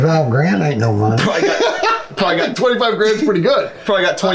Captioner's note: laughing